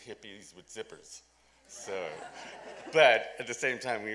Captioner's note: laughter